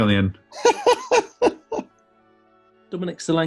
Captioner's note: laughing